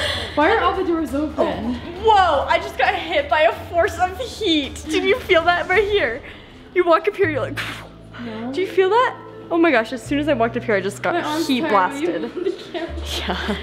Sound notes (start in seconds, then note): 0.0 laughing; 7.5 blowing air from mouth